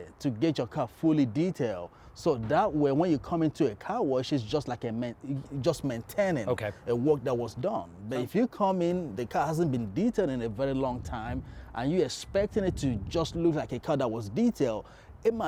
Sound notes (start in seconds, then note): 4.9 stuttering